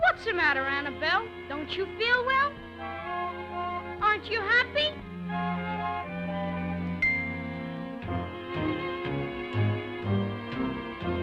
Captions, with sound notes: What's the matter, Annabelle? Don't you feel well? Aren't you happy? (teardrops clinking) (Felix clomping)